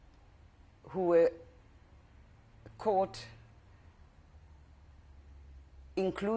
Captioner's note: pauses for 3 seconds; pauses for 3 seconds